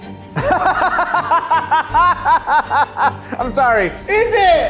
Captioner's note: laughs